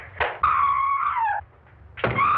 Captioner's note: screaming; heavy thudding